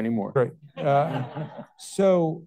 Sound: all laughing

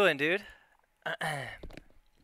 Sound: cough

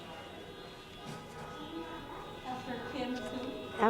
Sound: cars honking

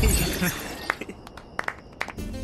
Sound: people clapping

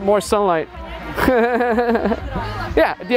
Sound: laughs

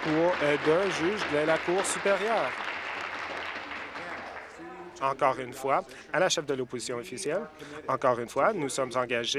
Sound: applause

